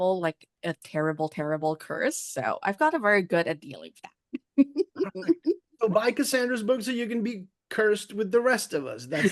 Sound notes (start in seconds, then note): 4.4 laughs